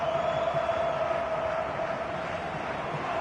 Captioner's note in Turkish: coşkulu tezahürat